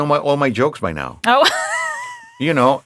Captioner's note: laughing